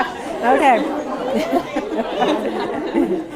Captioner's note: laughter